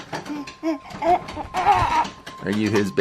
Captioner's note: squealing